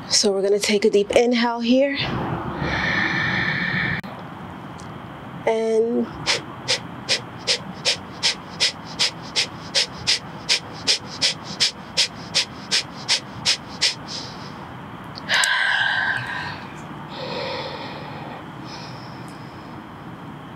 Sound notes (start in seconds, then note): 2.6 inhale; 7.0 short exhale x20; 12.0 long inhale; 14.5 long exhale